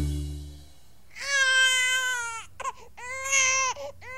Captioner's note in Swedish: bäbis gråter